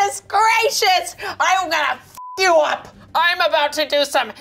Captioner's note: beep